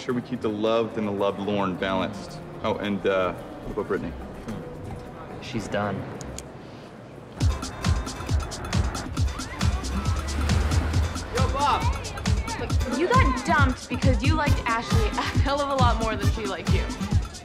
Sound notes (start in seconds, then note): 7.8 upbeat music; 11.7 people chattering